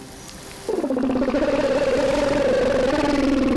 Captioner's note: gurgling